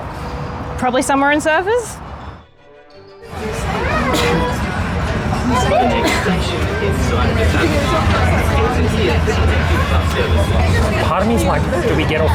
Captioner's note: tram announcement